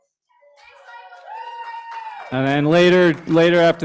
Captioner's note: cheering, applause